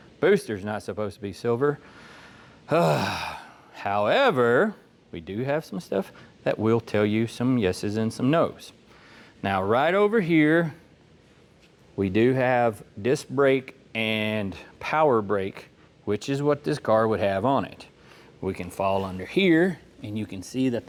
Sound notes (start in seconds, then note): 2.7 sighing